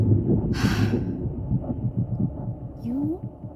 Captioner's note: breathing